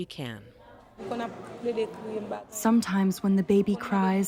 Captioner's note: through translator